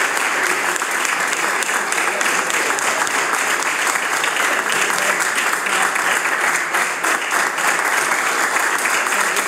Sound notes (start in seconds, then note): 3.0 cheering/Applause